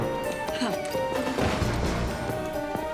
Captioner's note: sighs angrily